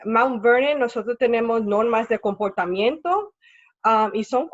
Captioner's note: speaking Spanish